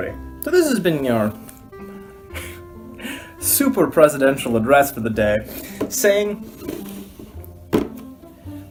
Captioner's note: laugh